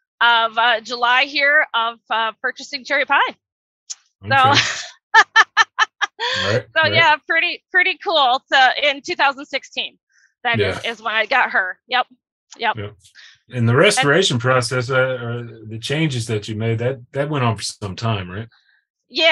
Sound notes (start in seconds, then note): 4.3 laughing